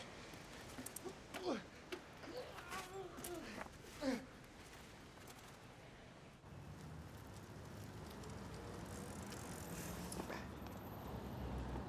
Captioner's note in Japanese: 力み声